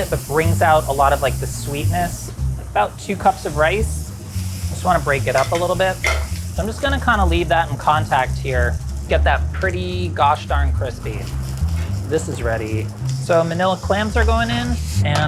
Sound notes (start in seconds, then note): 11.3 food sizzling